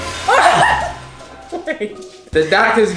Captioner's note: laughing